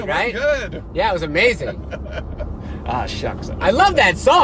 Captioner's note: laughing